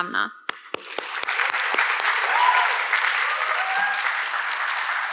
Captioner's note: audience clapping